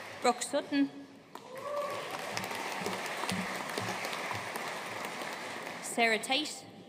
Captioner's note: audience cheering and applauding; audience cheering and applauding